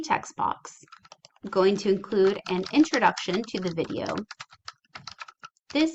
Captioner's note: typing